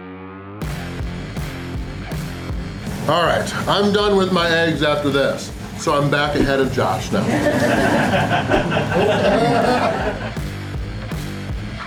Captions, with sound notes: Alright, I'm done with my eggs after this, so I'm back ahead of Josh now!! (Audience laughter)